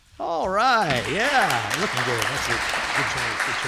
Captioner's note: applauses